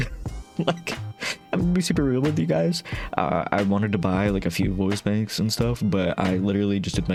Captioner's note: laughing